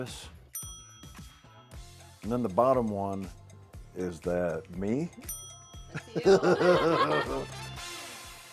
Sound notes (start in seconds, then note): 5.1 ding; 5.9 laughter; 6.8 upbeat music